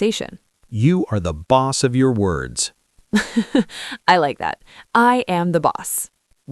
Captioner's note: laughs